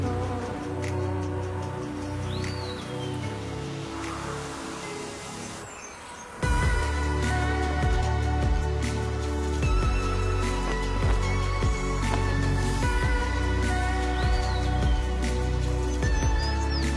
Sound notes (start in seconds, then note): 6.5 music increases in intensity; 11.0 flag fluttering